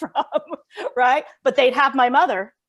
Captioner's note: laughs